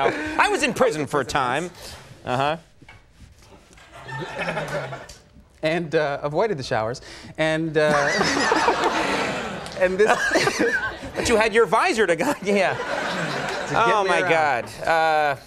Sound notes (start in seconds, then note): 7.9 audience laughs